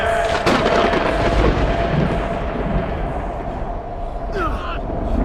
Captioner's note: thunder rumbling